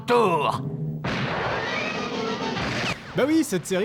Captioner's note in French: coup de fusil